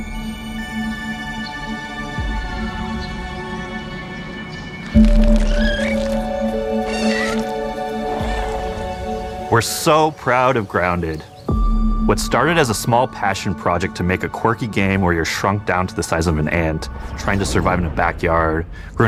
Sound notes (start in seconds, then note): 0.1 mysterious ambient music; 5.0 squeaking and trilling